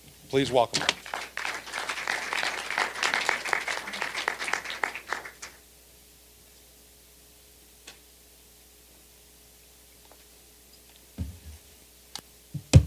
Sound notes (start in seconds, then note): 2.4 applause